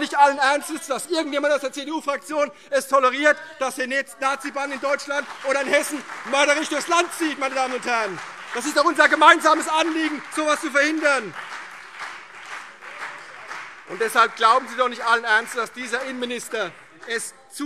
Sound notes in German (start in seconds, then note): 11.7 Beifall CDU